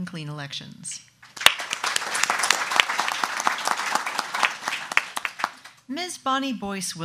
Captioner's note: audience clapping